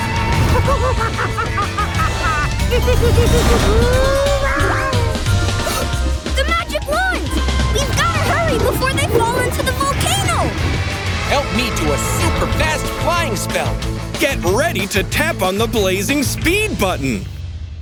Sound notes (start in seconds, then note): 0.3 laughing; 3.6 screaming; 5.2 AJ gasps